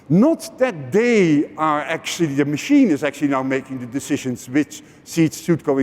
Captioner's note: none